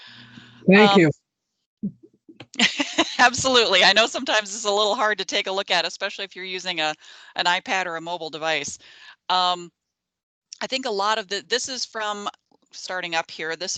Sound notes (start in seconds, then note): 2.5 laughing